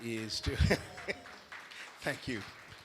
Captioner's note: applause